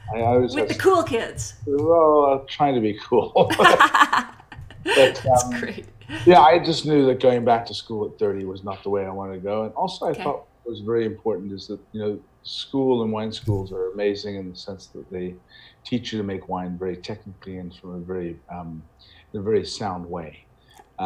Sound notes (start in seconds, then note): 3.3 both laughing